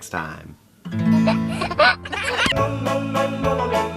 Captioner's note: child laughs; upbeat music